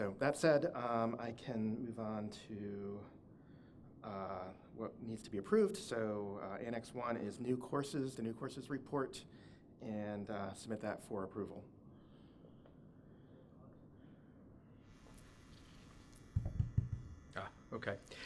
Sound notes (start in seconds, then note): 16.3 tapping microphone